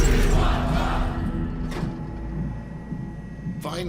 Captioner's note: chanting